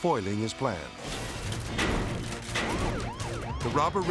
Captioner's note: shields slamming; sirens blaring